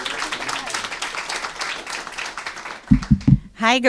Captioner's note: applause